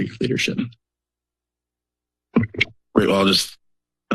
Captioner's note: silence